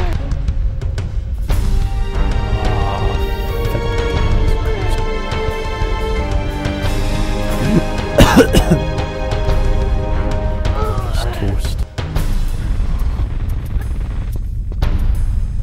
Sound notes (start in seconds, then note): 7.5 coughs; 8.1 gasps